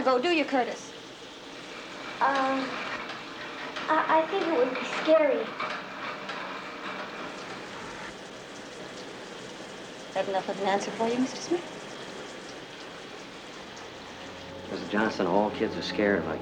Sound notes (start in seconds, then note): 7.2 faucet running